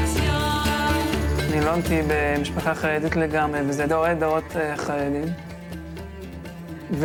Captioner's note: young man speaking in foreign language